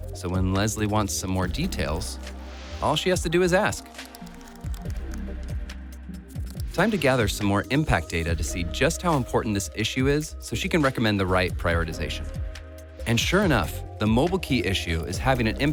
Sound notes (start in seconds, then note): 3.7 typing sound effect; 4.2 ambient music